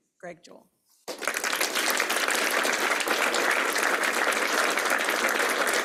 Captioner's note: applause